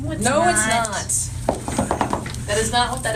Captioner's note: feet stomping